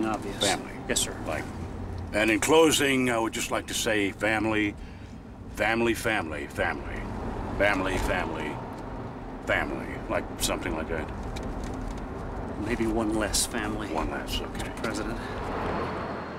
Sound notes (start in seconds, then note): none